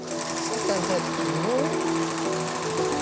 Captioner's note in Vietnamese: tiếng địa phương